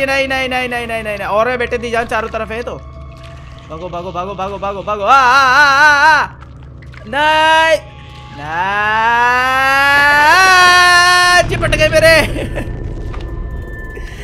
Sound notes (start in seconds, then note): 7.0 repeated pleadings of no